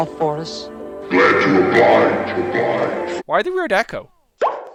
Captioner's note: echoing